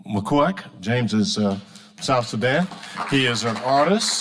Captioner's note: audience applauding